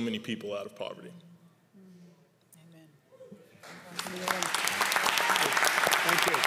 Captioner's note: applause